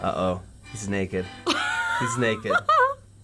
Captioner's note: laughs